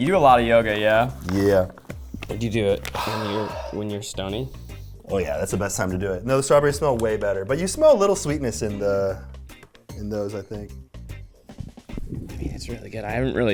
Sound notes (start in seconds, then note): 2.8 sniffing; 11.3 upbeat instrumental music